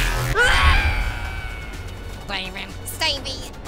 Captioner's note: screaming